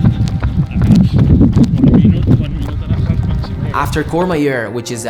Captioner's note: voice muffled by wind